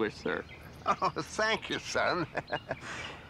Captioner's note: laughs